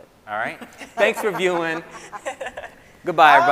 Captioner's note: scientists laughing